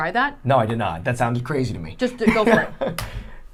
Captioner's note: laughing